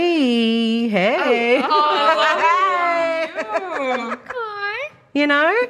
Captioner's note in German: lacht